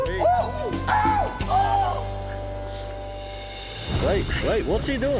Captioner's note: cheering